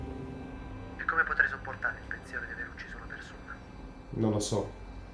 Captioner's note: Ian on phone